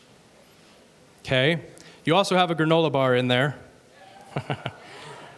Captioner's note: chuckles